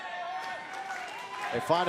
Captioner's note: crowd cheering